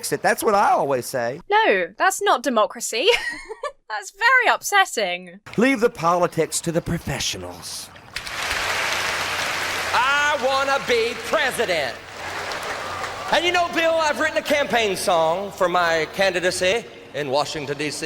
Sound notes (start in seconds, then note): 3.0 laughs; 8.1 audience applauds; 12.2 audience laughs